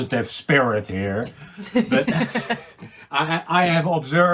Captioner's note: laughing